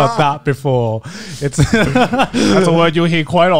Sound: everyone laughs

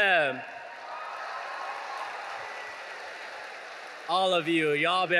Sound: audience cheering

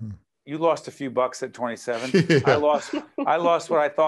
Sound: laughing

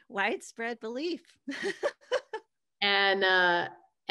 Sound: laughs

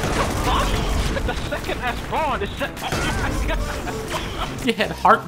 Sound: laughing

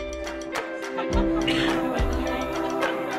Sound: woman laughing in background

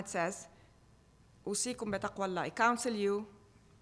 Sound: speaking foreign language

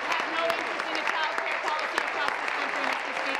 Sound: applause

